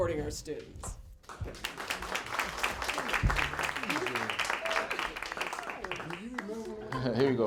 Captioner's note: applause